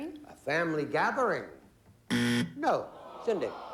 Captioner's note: buzzer